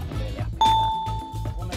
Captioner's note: bell chimes